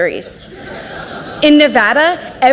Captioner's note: audience laughs